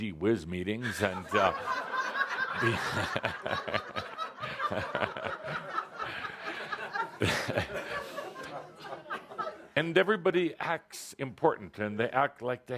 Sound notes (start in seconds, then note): 3.9 lots of laughter, Kuthumi chuckling